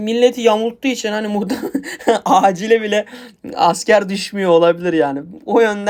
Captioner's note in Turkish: kahkaha